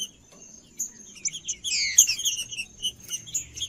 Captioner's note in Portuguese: trinca ferro cantando